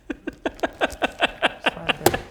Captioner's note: gleeful DM noises